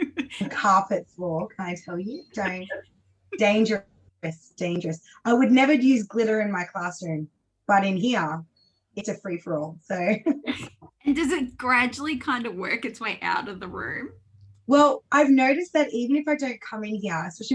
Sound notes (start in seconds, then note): 0.0 laughs; 10.6 laughs